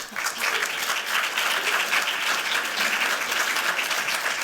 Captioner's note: applause